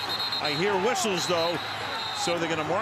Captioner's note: whistles